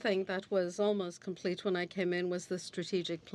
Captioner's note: speaking French